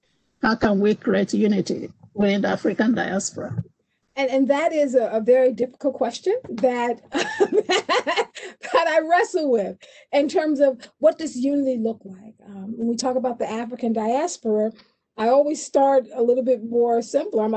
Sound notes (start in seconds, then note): 7.1 laughs